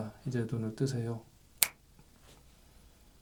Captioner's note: snap!